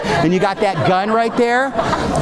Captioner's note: audience laughing